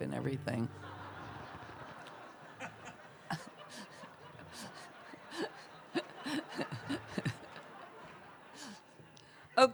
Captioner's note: laughter